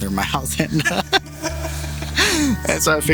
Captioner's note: laughs